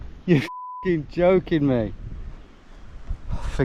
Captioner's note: beep